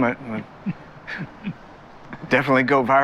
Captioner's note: Hardy laughs